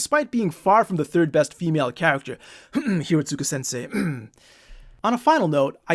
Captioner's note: cough